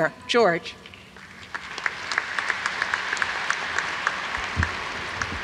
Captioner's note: audience applauds